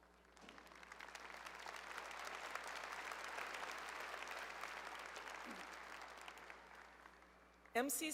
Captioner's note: applause